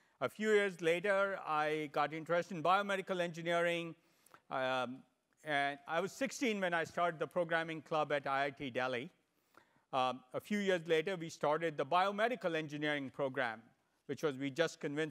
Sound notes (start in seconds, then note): none